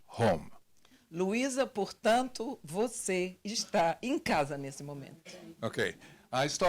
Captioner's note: translator speaking Portuguese